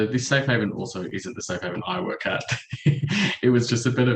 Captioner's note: chuckles